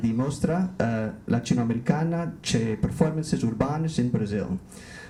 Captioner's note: speaks Portuguese